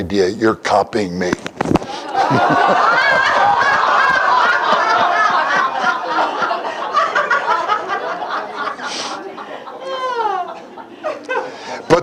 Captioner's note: Смех